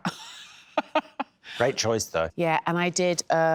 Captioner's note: laughs